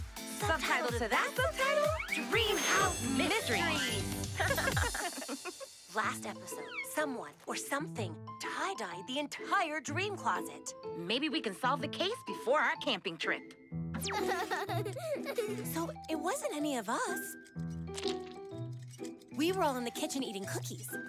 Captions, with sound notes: Subtitle to that subtitle, Dreamhouse Mysteries! [both laugh] Last episode, someone, or something, tie-dyed the entire dream closet! Maybe we can solve the case before our camping trip! [laughing] So it wasn't any of us! We were all in the kitchen eating cookies.